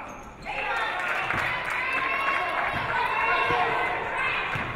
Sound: audience applauding

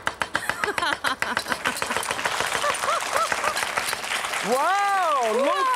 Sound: audience applause

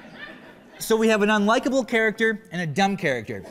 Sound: laughter

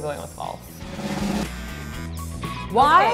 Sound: drum roll; buzz

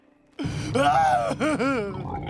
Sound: crying; laughing

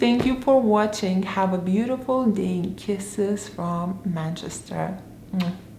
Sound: smooches

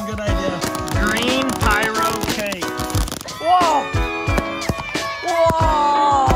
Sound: distant screaming

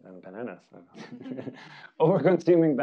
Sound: audience laughing

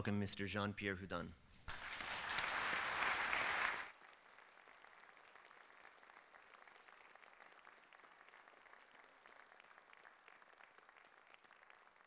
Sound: applause

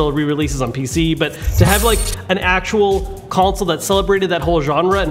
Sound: zaps

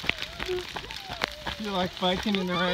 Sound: crying

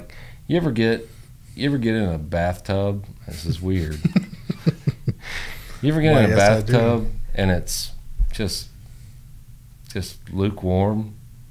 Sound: laughter

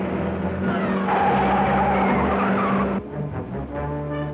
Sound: tires screech

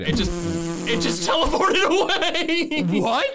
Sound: laughs

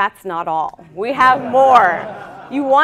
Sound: audience laughing

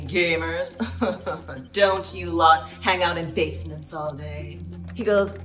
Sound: chuckling

